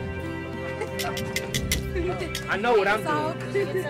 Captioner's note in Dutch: tangen klapperen